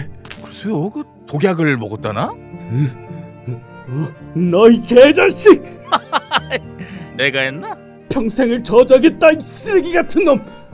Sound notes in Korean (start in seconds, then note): 5.9 킬킬